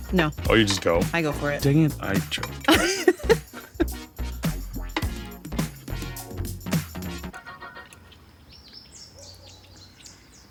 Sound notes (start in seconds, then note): 2.6 laughs; 4.6 upbeat music